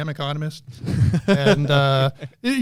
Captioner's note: laughter